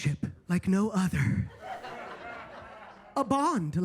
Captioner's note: attendees laughing